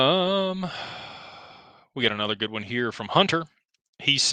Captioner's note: sighs